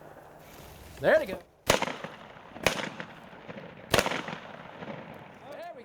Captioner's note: gunshots crack